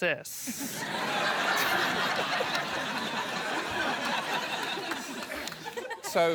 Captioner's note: laughter